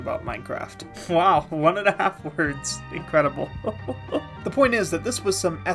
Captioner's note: laughing